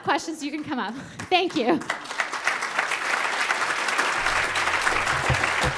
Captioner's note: audience applauding